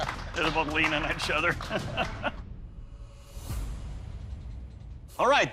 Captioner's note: laughs